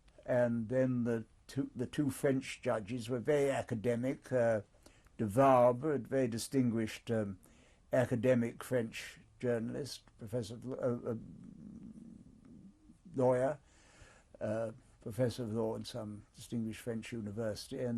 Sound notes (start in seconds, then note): 10.6 pauses for 3 seconds